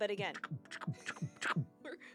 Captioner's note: imitates chomping